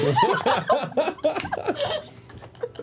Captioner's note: laughter